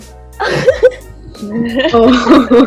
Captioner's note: laughter